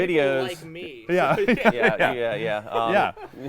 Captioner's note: laughing